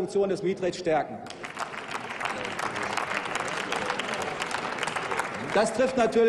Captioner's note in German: Applaus